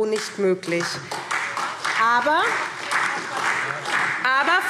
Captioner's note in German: Beifall SPD